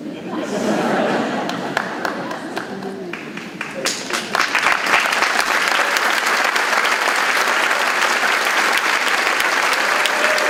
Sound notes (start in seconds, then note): 0.0 audience laughing; 4.6 audience clapping